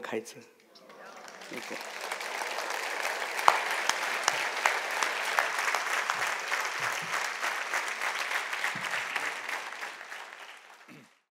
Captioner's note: applause